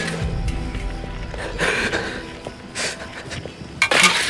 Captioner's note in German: Dramatische Musik; Schluchzen